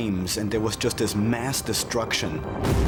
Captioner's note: explosion